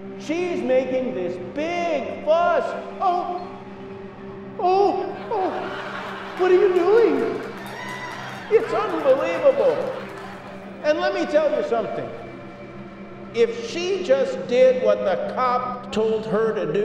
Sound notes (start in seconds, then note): 5.1 laughter